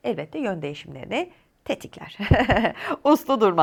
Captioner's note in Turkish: kahkaha